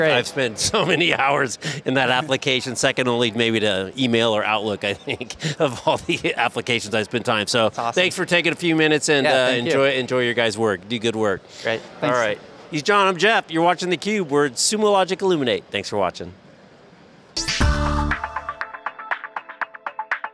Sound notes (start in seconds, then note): 4.9 laughs; 17.6 bubbly music